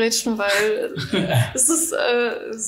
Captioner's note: laughter